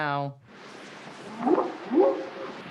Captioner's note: whooping sound